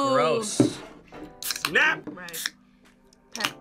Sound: can clicks

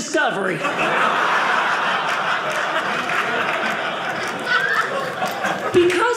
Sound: audience laughing

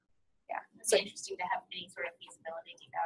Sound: voiceover

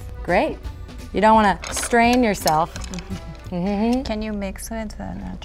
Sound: laughs

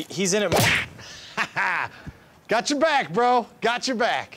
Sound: laughs

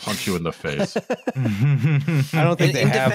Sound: laughter

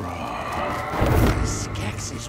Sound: distant roar

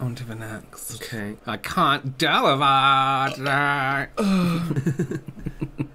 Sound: burping

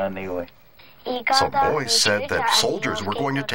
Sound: Spoken Cherokee

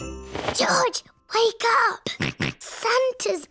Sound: snorts

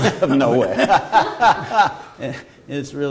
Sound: laughter

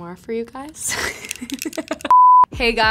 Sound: laughs

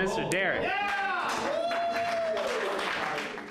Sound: clapping

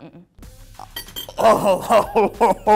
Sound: fork clinks; laughs

